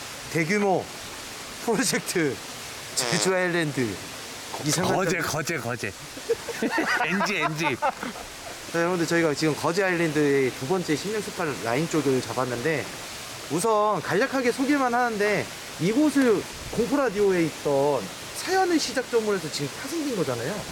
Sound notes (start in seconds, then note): 4.5 laughing